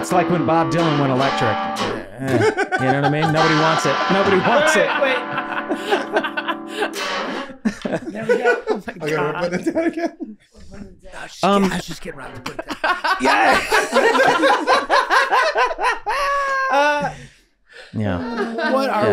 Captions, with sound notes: - It's like when Bob Dylan went electric. You know what I mean? Nobody wants it. - Wait, wait, wait. - Nobody wants it. (group laughing) - There we go. - Thank God. - We're putting it down again? - I was just getting Rob to put it down. (group laughing) - Yeah. Yeah.